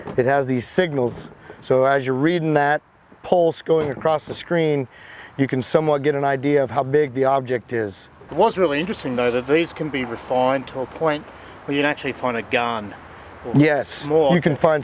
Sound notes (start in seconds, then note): none